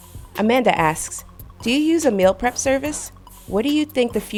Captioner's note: voiceover